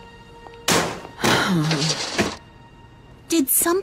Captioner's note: groans